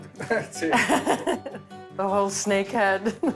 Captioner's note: chuckling; laughs